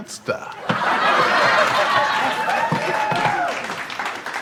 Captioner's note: audience laughs